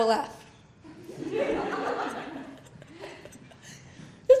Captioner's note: laughter